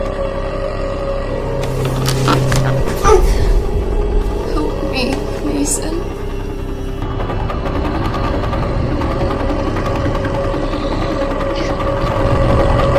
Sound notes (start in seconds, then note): 2.5 Pam grunts; 7.8 creature groans; 7.8 eerie drum music